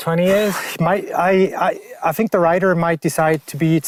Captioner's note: deep exhale